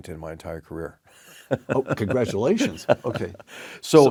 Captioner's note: laugh